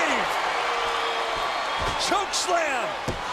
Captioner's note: crowd cheering